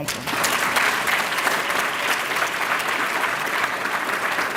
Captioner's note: applause